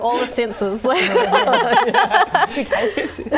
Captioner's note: laughing